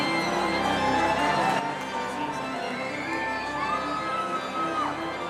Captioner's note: audience cheering